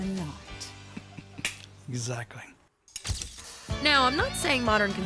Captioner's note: chuckles